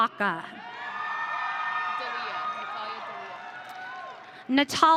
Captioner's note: audience cheering